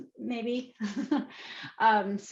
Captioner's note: chuckles